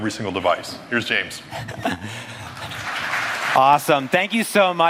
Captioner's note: applause